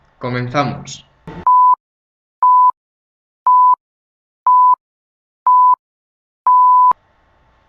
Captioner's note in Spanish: Efecto de pitidos introductorios